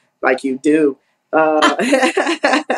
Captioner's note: laugh